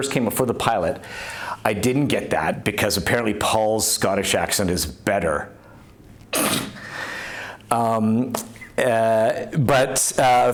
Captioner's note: scoffs